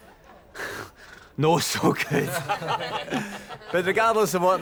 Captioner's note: all chuckle